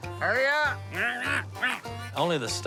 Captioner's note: quacks